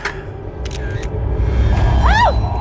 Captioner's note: ominous music; camera clicking; Rachel screams